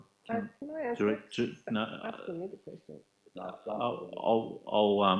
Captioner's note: overlapping muttering